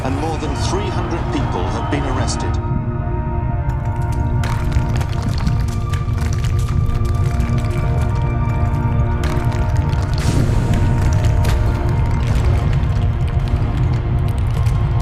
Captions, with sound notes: and more than three hundred people have been arrested. [epic music] - [cracking sounds]